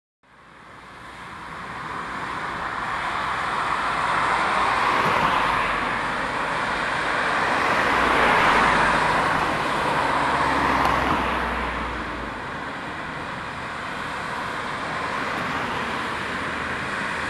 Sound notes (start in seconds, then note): 1.0 traffic thrumming